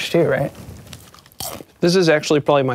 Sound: chip crunching

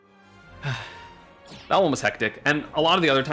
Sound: sigh

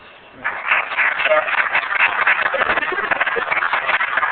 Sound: applause

